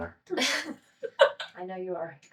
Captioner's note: laughing